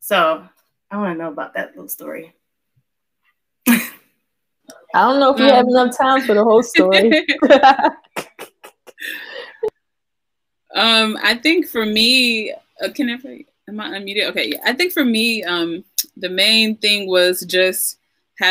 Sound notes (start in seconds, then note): 6.2 chuckles